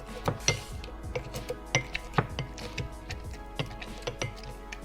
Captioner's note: glass tinks